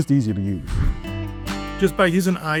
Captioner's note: transition whooshing